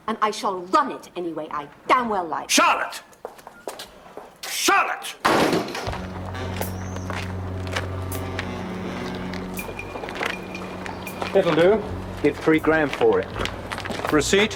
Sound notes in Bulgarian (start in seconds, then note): 5.2 DOOR затръшна